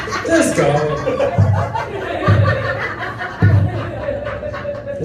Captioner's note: laughter; thumping